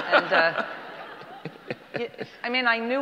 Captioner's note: audience laughter